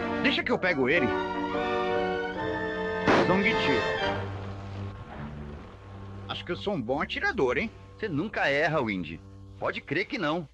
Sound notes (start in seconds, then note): 3.0 gunshot